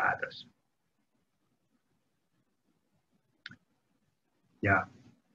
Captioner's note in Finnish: hiljaisuus